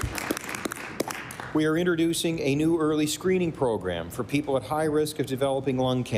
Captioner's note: applause